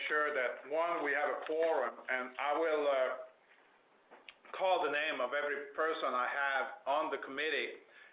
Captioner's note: clicks tongue